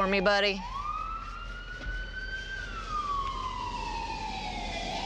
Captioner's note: sirens